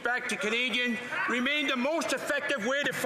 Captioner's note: speaking French